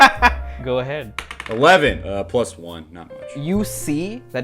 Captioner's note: laughter; laughs